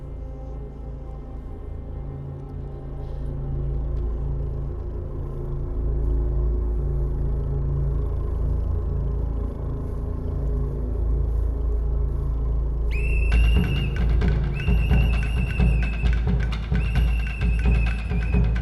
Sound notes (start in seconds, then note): 12.9 whistle blows; 12.9 dramatic percussive music